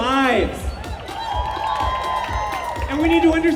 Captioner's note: cheers